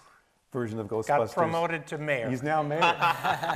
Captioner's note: laughs